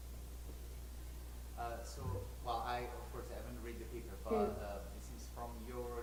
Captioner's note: voiceover